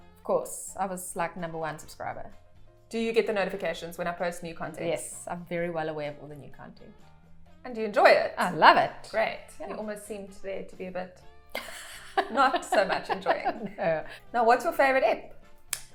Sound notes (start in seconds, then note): 11.5 laughing